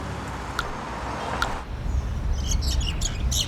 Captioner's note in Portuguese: Pássaros